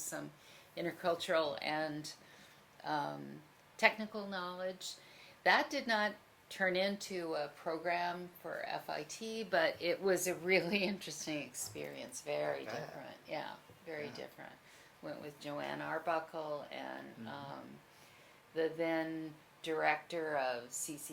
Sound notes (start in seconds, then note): 12.6 laughs